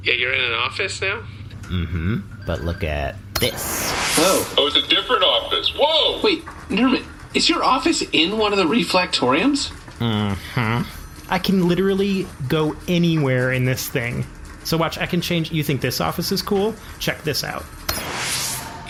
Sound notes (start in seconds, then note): 3.4 Nermut presses a button, there is a whooshing sound; 10.4 excited; 18.0 button press, whoosh sound